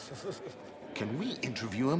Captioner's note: person laughing